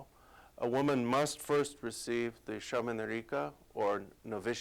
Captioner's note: non-english speech